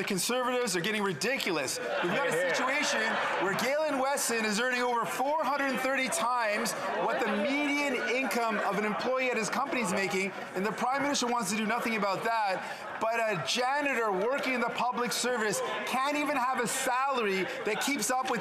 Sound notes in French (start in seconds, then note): 0.0 voix de l'interprète